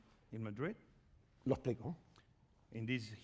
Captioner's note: speaking spanish